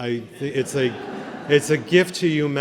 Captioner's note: laughter